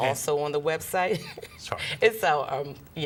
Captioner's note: laughs